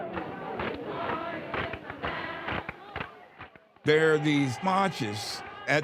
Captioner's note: crowd chanting